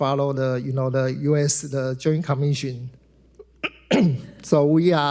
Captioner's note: clears throat